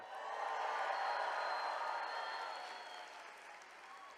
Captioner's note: attendees cheering